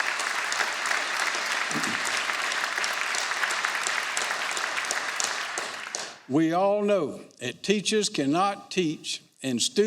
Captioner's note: applause